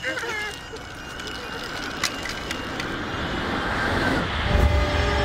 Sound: child crys; rumble of train approaching; loud train horn

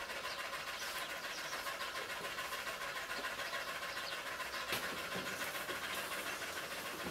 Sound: distant birds chirping; dog rapidly panting

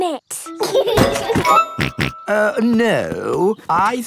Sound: laughs and snorts

